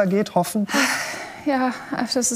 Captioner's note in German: Sie seufzt